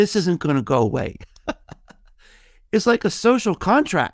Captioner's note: laughing